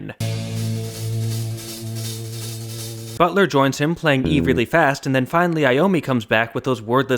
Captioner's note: bang